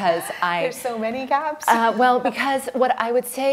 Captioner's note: laughs